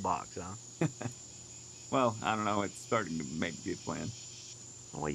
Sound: Mark chuckles

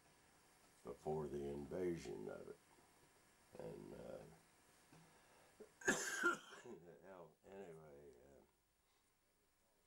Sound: coughs

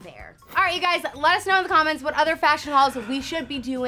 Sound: whoosh

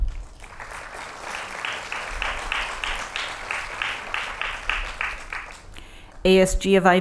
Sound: applause

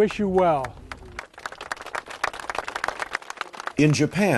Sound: applause

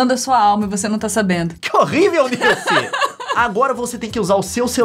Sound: laughing

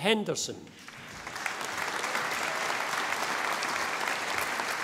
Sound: audience applauding

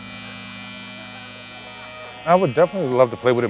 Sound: clippers buzz

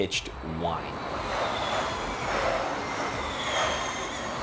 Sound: sound Of Cars Passing

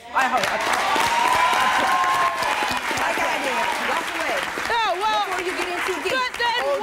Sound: audience applauding

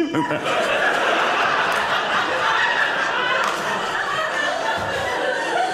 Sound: audience laughing

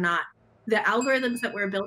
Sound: bell dings

